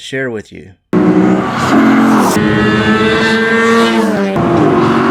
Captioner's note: loud engine roar